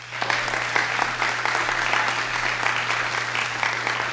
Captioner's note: audience clapping